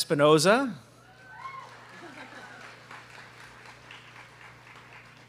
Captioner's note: students clapping